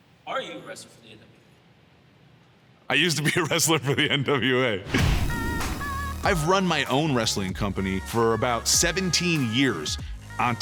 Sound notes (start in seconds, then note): 3.0 chuckling